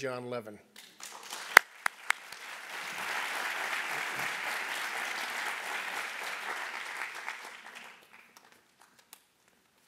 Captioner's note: applause